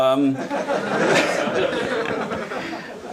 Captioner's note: audience laughs